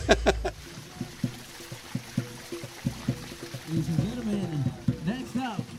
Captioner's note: laughs; drums beating; water splashing